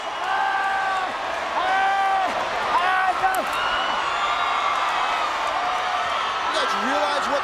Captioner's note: applause